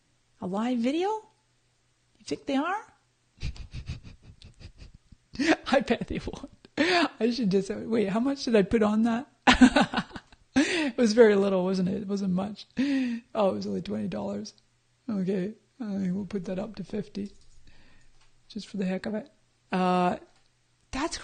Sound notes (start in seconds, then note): 3.4 chuckling; 9.5 laughs